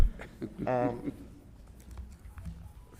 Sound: group chuckles; chuckles

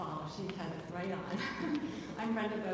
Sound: chuckles

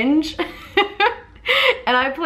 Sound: laughs

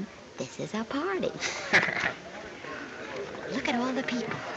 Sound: both chuckling

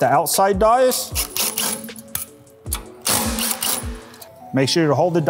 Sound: driver whirring

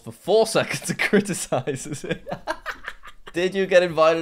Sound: laughs

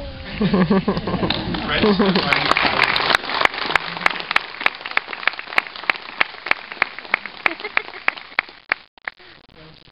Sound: clapping

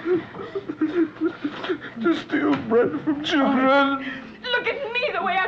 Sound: stammers

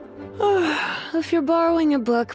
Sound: yawn

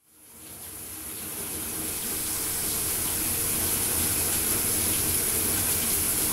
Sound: shower

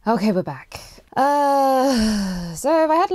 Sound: sighs

